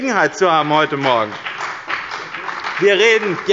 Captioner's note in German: Beifall bei dem BÜNDNIS 90/DIE GRÜNEN und der CDU